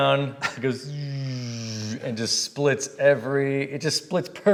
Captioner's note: swooshing